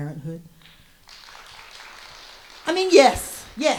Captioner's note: audience applauds